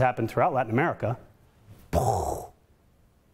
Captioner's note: imitates explosion